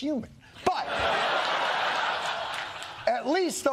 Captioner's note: laughing